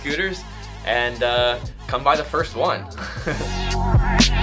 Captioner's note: laughs; upbeat electronic music